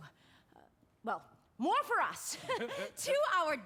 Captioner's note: gussie and joe chuckle